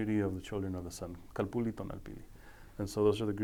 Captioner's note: speaking foreign language